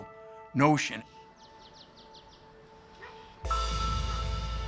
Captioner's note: birds chirping